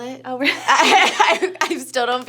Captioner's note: laughs